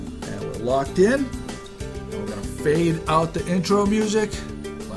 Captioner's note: voiceover